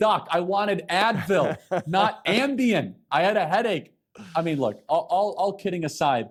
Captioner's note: laughter